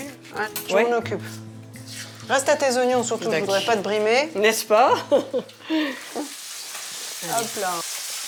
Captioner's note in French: rires